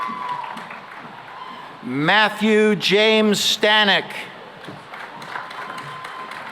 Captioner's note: applause